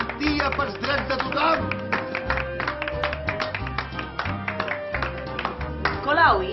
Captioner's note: expressions of disapproval and just little applause